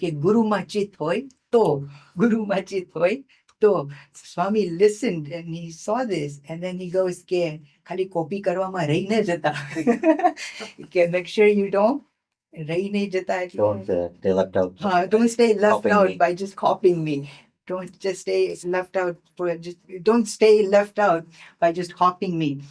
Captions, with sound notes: Guruma chhit hoy toh. Swami listened and he saw this. And then he goes, Khali copy karva ma rahi na jata. (laughing) Make sure you don't, (speaking in foreign language) Don't, they left out. Don't stay left out by just copying me. Don't just stay, it's left out. Don't stay left out by just copying me.